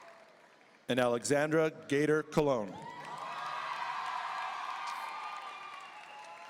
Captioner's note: audience cheering; audience cheering